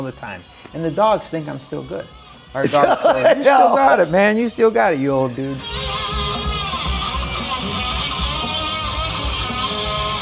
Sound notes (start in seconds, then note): 2.6 laughs; 6.1 rock music